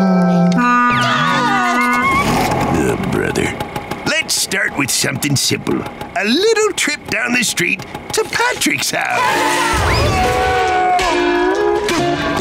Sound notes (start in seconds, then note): 0.5 honking; 9.0 screaming, thudding